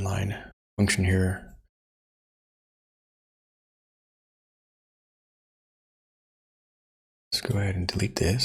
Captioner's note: blank Audio